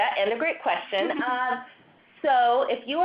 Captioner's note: people laughing